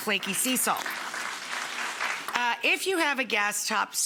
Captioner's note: audience applauding